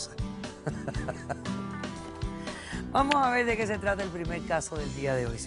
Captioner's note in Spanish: Risas